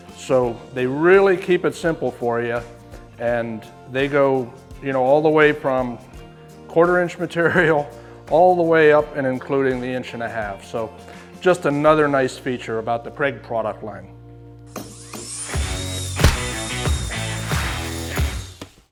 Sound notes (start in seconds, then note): 15.2 upbeat rock music; 16.2 stamp thudding